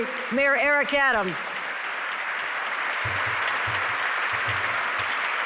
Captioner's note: audience clapping